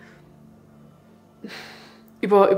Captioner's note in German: Stöhnen